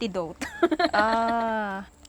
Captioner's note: laughs